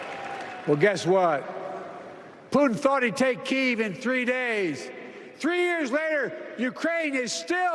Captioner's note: applause